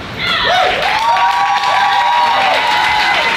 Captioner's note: applause